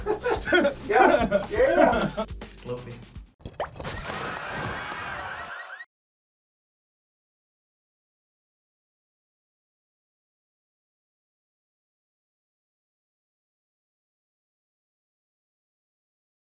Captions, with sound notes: (laughs) - Yeah, yeah! Loafy. (plops) (car alarm sounds)